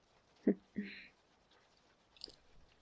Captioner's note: soft laughing